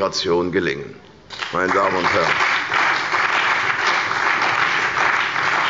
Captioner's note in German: Beifall bei der CDU und dem BÜNDNIS 90/DIE GRÜNEN